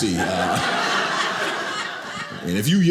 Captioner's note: audience laughing